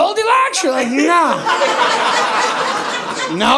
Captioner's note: audience laughing